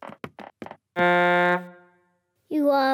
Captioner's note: blows horn